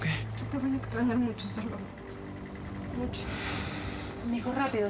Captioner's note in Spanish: llorosa